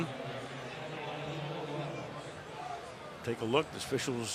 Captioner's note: pa announcement